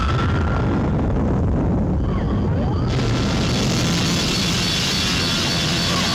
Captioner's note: volcano rumbling; wasps shrieking